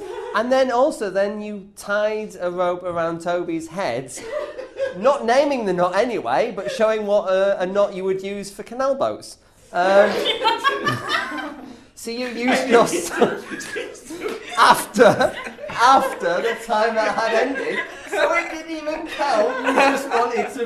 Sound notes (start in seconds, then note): 13.0 laughter